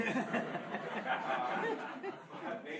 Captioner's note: laughing